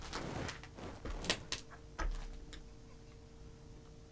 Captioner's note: debris crackling